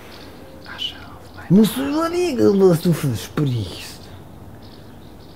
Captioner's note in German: leise